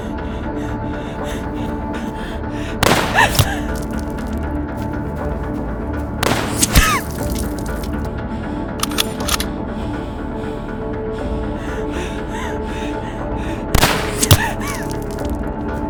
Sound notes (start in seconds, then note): 3.1 gasping; 3.1 gun firing